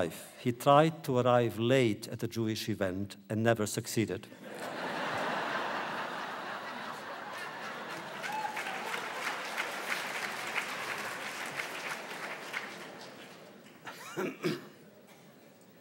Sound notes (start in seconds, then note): 4.9 audience applause